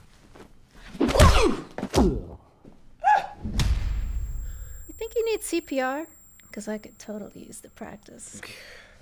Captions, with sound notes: (smacking) - Ah! (ears ringing) - You think he needs CPR? Because I could totally use the practice.